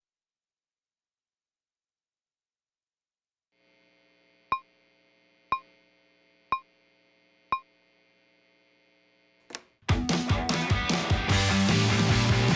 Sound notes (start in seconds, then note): 3.7 amp humming; 9.9 rock music playing